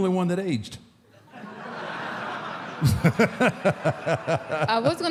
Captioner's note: audience laughs; Mark laughs